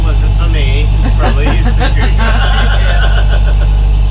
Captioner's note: laughter